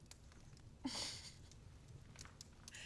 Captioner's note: giggling